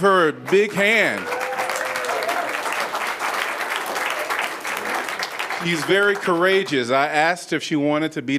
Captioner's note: applause